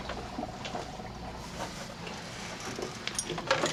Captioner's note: bubbling Stops